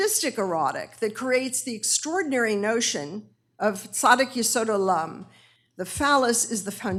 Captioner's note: hebrew